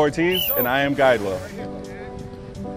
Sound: whistle blows; ambient music

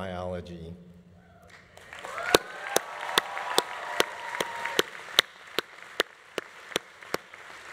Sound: audience applauding; audience cheering

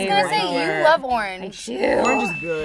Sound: bell dings

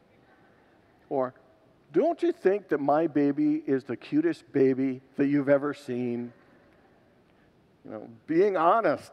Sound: congregants laugh

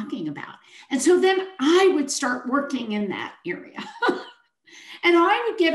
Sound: chuckles

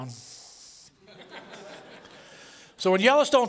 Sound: laughter

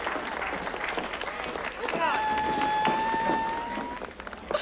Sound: applause; whimpering

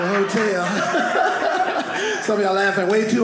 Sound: audience laughing

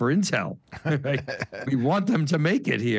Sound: laughs

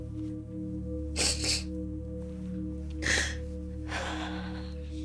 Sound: sobbing softly

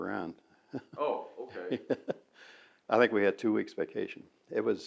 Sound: laughs

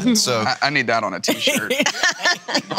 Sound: laughing

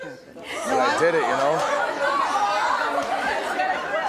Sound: audience laughing

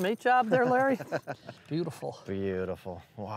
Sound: laughs

